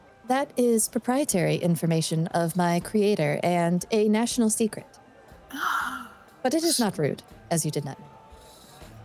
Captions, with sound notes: That is proprietary information of my creator and a national secret. [gasps] But it is not rude, as you did not know.